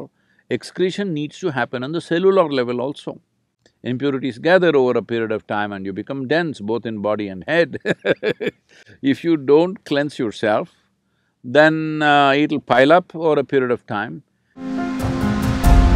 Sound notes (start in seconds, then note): 7.7 laughs